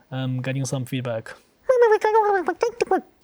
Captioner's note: Pengu indistinct chattering